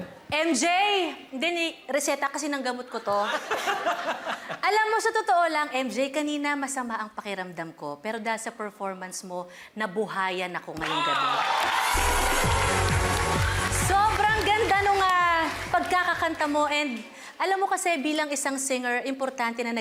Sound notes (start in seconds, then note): 3.3 laughs; 10.8 audience cheering